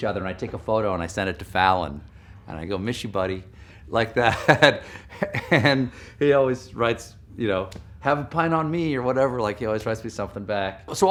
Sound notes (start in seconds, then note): 4.2 laughs